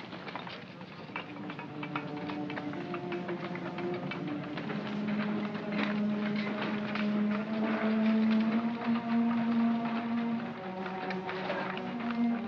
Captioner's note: sounds of shoveling & tapping; gloomy music